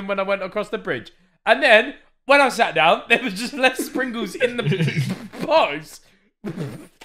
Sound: all laughing

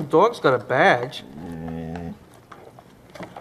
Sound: soft growl

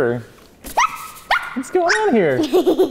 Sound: squealing

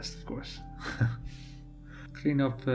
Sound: laughs

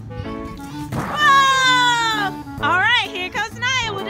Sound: voiceover

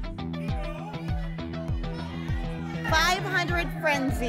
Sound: audience shouting games

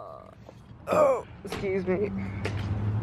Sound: burp

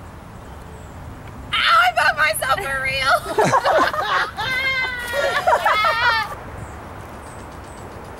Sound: laughter

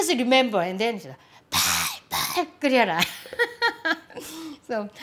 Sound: laughs

